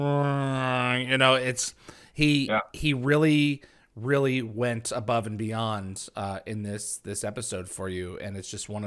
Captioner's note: makes dopler effect sound